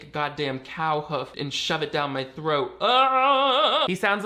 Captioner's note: screams